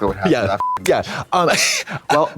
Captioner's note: beep